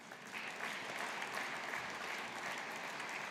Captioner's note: audience applauding